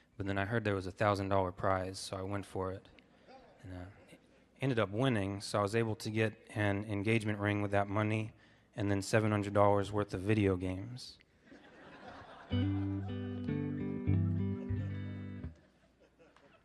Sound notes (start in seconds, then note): 11.5 audience laughing; 12.5 gentle guitar music